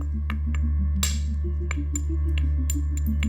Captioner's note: stones tapping